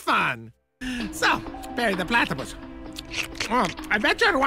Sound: slurping noises

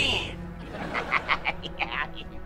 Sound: laughing

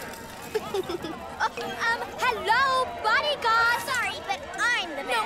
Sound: chuckles

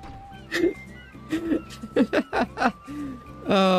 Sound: still laughing

